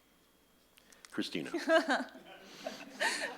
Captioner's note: laughs; audience laughs